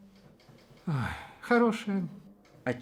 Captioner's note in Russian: вздох